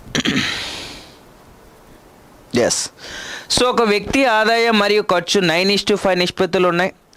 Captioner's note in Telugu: గొంతు సవరించుకోవడం